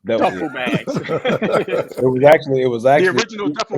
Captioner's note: group laughing